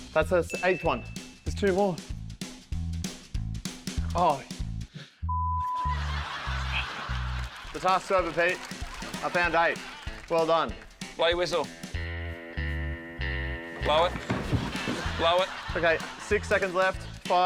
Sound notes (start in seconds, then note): 5.6 laughter